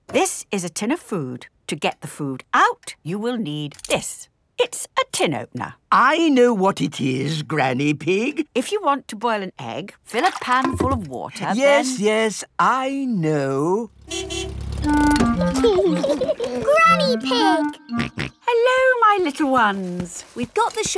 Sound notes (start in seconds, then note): 14.0 car honking; 15.5 laughing; 17.9 snorts